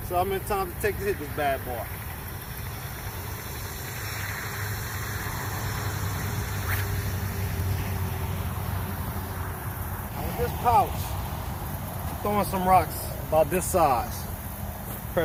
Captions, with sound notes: See how many times it takes to hit this bad boy. (sling whips) With this pouch I'm throwing some rocks about this size.